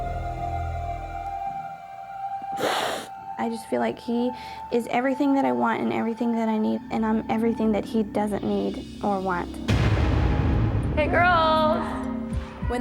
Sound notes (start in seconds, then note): 2.6 sobs; 9.7 ominous music